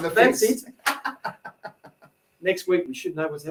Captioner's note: laughing